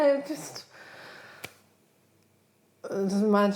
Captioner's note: clicking repeating sounds